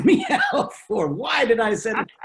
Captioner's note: laughs